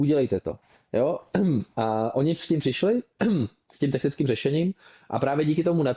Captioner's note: clears throat